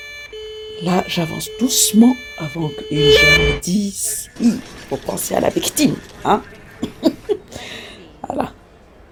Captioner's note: laughs